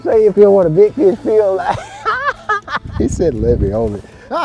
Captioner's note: man laughs